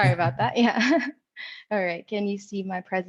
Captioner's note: chuckles